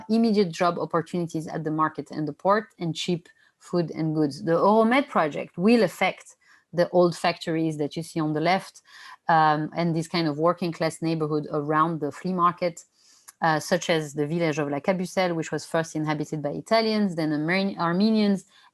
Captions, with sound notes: immediate job opportunities at the markets and the port, and cheap food and goods. The project will affect the old factories that you see on the left and these kind of working class neighborhood around the flea market, such as the [NON-ENGLISH SPEECH],, which was first inhabited by Italians, then the Armenians,